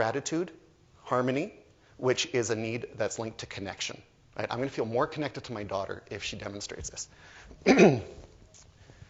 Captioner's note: clears throat